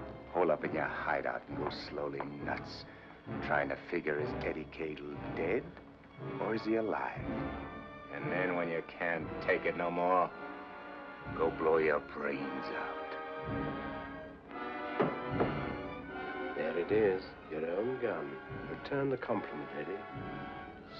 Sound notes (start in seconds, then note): 13.6 dramatic music; 14.9 gun clatters on ground